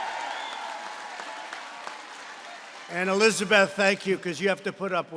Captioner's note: applause